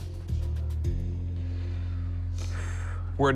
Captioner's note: sighs